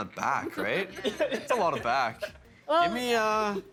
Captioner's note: laughing